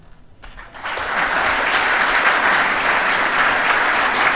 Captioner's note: audience applauding